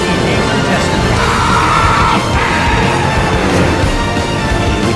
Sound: screaming

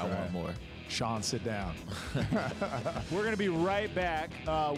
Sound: laughter

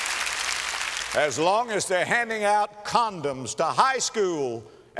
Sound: applause

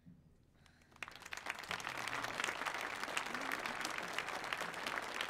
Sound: audience applauding

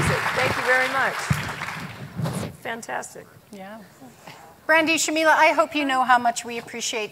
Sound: applause

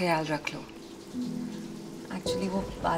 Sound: raining

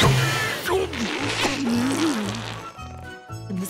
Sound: groaning

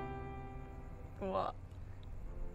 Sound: none

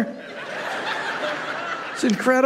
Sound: congregation laughing

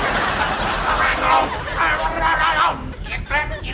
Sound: moaning

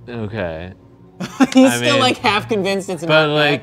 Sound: laughs

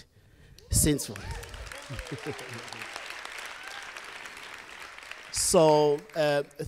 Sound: cheering and applause from the audience

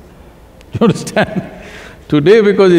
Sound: laughs

